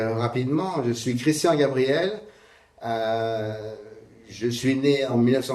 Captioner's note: speaking in French